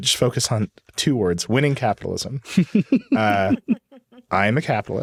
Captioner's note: chuckling